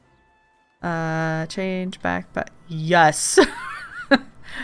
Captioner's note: laughs